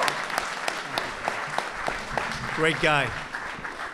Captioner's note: applause